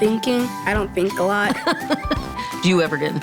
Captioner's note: laughing